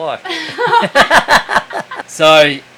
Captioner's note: laughing